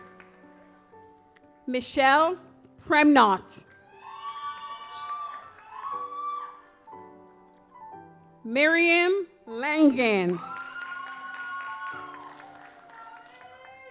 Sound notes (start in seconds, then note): 0.2 gentle music; 3.6 audience applauds; 10.2 audience applauds